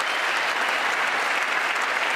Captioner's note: applause